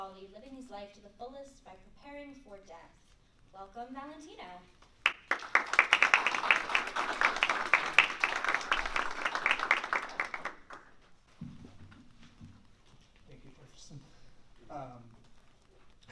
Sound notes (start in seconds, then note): 5.0 applause